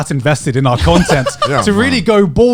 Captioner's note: laughing